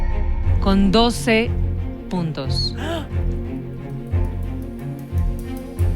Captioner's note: gasps